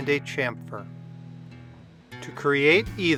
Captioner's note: machine humming